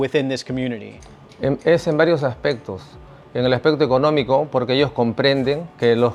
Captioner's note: speaking Spanish